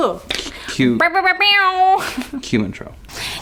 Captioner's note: giggles